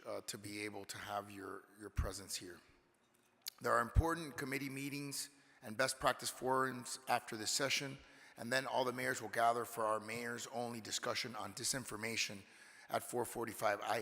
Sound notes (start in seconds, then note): none